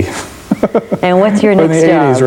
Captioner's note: laughs